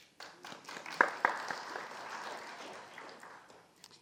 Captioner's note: audience applauding